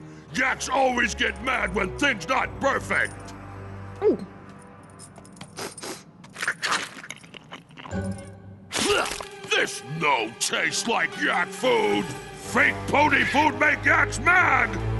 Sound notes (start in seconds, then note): 3.9 gulp; 5.5 sniff sniff